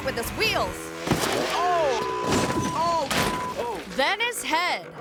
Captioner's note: beep